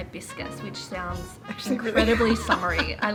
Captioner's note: laughing